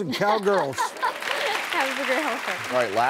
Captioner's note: laughing and applauding